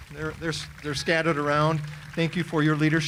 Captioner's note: audience applauding